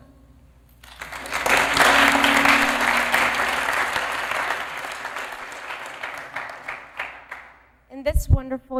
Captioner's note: applause